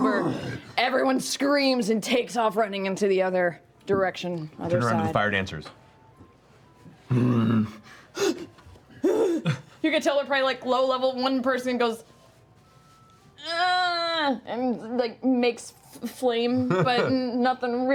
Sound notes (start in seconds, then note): 7.1 growling; 13.0 groaning